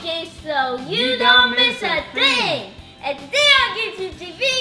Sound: in Unison

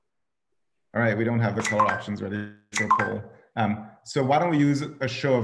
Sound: beep

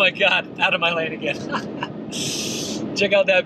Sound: laughing

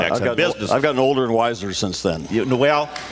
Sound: cheers, applause

